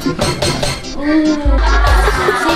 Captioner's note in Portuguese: Risadas